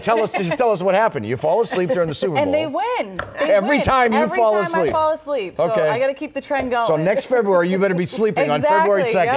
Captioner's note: laughter